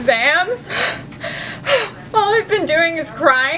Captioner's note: crying